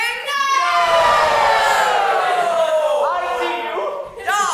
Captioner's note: audience gives more excited cheer